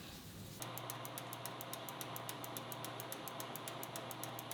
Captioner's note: machine gears click